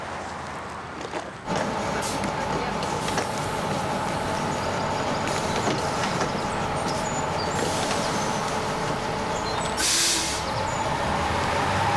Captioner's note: car sounds